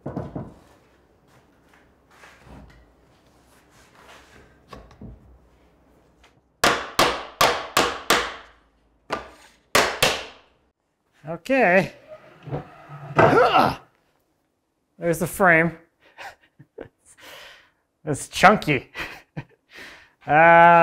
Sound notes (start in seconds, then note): 6.6 hammer banging; 13.2 grunts; 17.2 laughs; 19.7 laughs